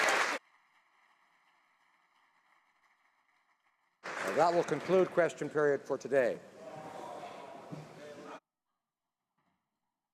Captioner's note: applause